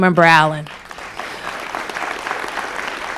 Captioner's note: applause